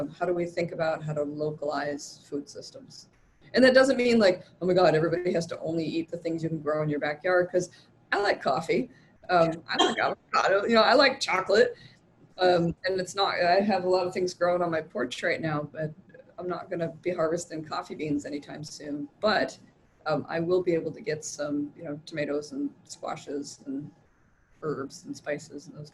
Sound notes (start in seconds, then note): 9.4 laughs